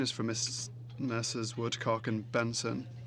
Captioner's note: speaking French